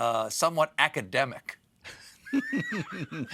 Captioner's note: laughter